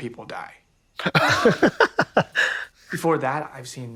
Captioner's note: Hunties chuckle